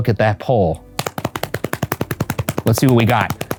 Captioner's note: hands slapping